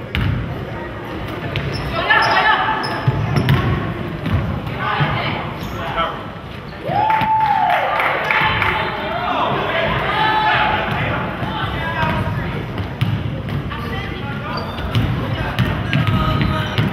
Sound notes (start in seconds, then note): 6.8 crowd cheers